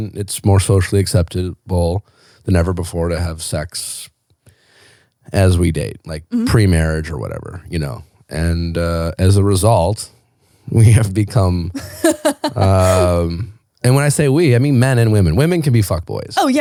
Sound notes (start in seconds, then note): 11.7 laughing